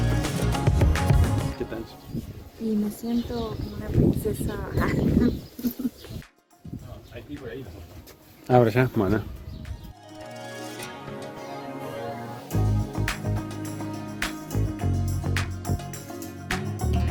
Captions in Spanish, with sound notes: y que tal? y me siento como una princesa [risas] Hay que ir para el otro lado.